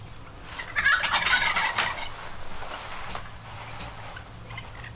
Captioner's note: birds squawking